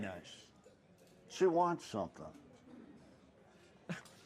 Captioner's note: chuckles